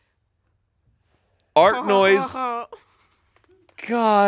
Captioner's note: imitates laughing